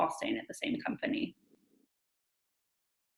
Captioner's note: silence